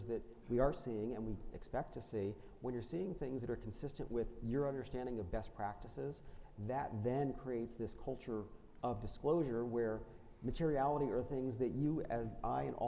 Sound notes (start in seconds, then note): none